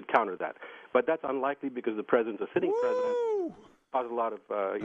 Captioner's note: exclaims